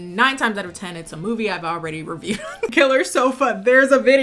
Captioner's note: laughs